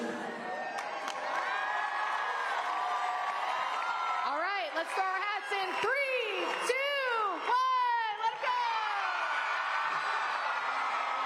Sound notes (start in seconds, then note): 7.7 applause